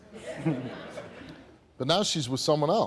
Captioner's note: audience laughs